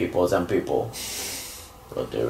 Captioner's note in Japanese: 鼻息